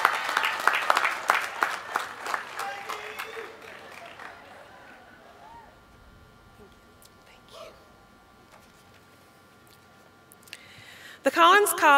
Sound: applause

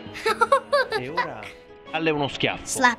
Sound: laughing

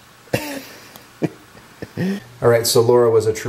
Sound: laughs

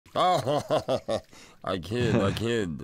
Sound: Zoidberg laughs

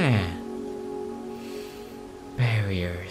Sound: inhale

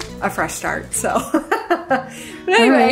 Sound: women 2 giggling

